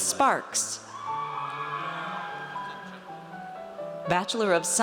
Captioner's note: audience cheers